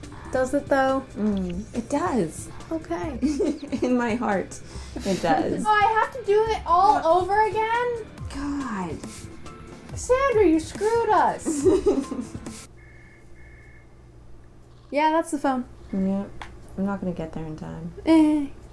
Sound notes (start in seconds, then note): 2.4 laughing; 11.4 laughter; 12.8 phone ringing; 12.8 end theme music